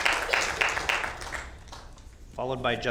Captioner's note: applause